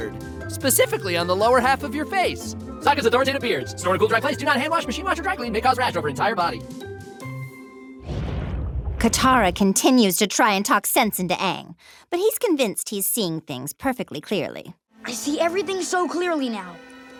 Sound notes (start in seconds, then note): 2.6 voice sped up; 8.9 in Azula's voice